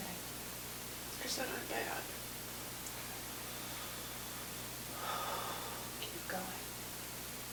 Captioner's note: breathes deeply